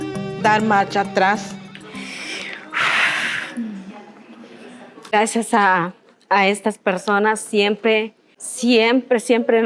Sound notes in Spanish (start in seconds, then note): 2.0 suspira